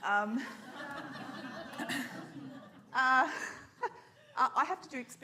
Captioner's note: audience laughs